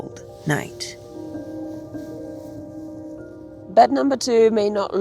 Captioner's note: eerie music; leaves rustling